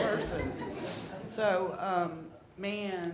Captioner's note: audience chuckling